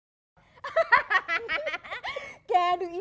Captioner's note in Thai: หัวเราะ